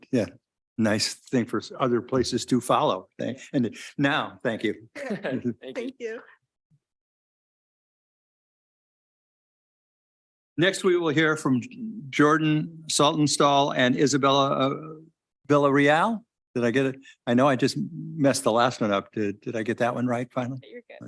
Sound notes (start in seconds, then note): 4.9 chuckles